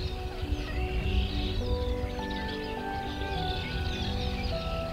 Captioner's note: birds chirping; sad piano music